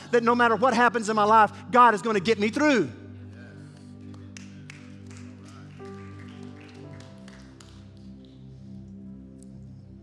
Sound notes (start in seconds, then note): 3.7 congregation applauding; 5.9 soft music